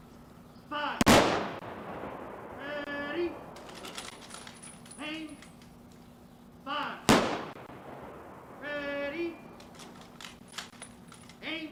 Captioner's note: gunfire and shouted commands